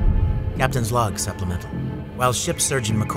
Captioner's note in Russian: голос за кадром